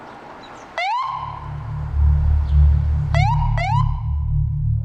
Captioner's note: sirens wailing